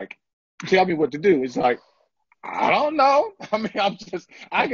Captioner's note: laughter